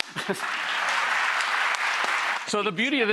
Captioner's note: audience applauds